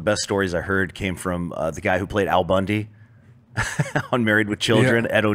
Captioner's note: laughs